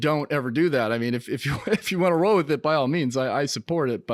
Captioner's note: giggles